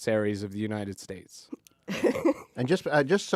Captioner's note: laughs